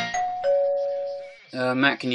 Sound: TV plays; doorbell

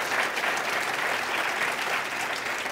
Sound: applause

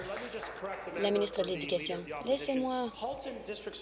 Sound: applause

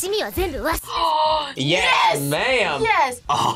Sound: gasps

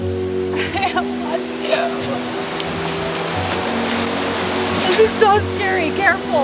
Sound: crying

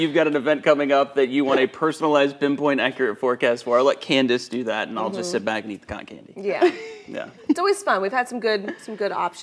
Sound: laughter; laughter

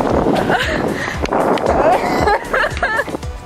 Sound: laughing

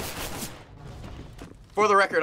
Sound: firing; bombs explode

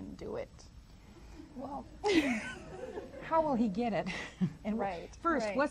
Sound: laughs

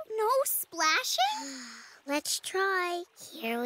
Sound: sighing

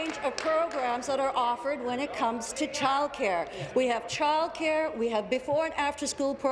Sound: applause

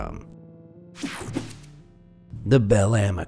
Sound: slide swooshing

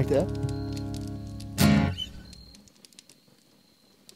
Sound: fire crackling

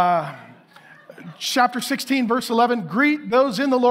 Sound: congregation laughing

